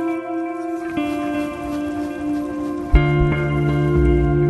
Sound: sound of shaking the tent

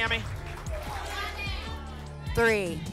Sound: audience shouting numbers

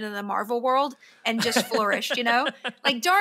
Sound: laughs

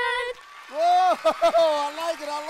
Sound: audience applauds

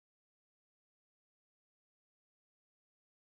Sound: none

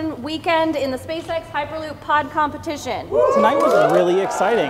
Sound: cheers

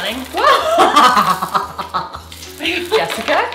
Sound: laughs

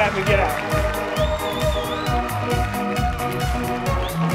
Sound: cheers and applause

